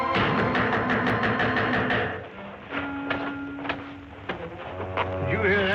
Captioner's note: loud knock at door